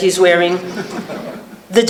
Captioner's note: laughter